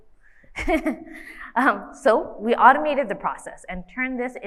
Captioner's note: laughs